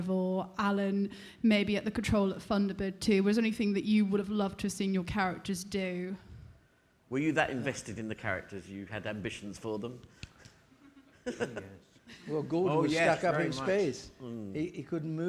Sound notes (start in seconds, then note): 10.9 audience laughing